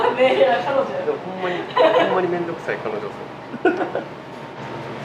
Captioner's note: laughs; laughs